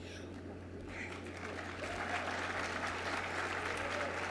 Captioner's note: crowd cheers